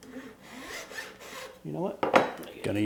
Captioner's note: file scraping